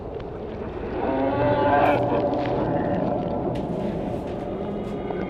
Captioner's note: distorted groaning